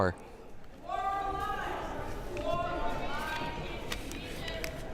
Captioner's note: crowd murmuring